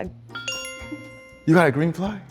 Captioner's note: bell chimes